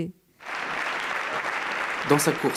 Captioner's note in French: Applaudissements